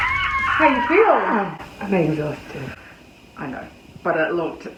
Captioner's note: squawks